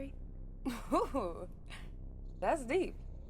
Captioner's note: laughs